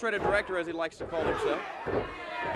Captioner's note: crowd chatter